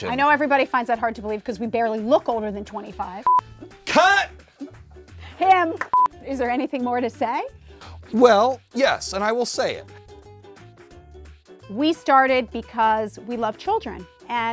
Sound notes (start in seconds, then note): 3.2 beep; 5.9 beep